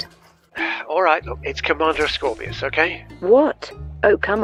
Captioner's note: sighs